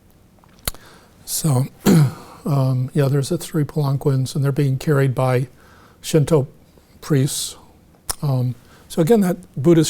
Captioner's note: clears throat